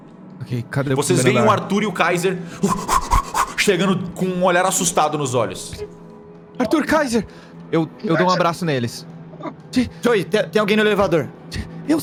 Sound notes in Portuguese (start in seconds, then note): 2.6 sons de corrida